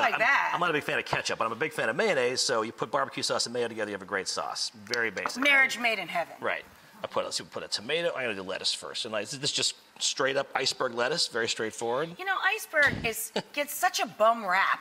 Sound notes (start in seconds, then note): 12.7 chuckles